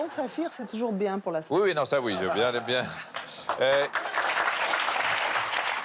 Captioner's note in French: applaudissements